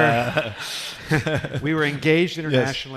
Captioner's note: laughing